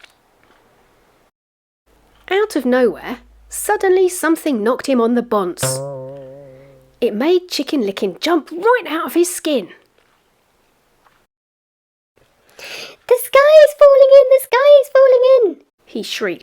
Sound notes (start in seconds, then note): 5.6 BOING noise